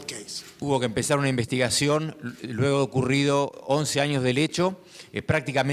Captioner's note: speaking in foreign language